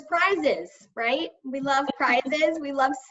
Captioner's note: laughing